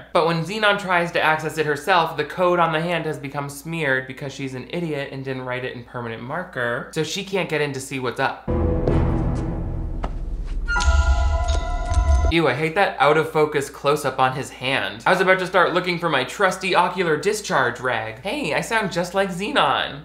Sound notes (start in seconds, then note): 10.7 disk clanging on floor